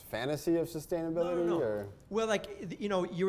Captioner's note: voiceover